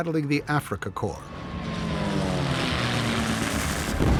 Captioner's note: airplane rumbles; booming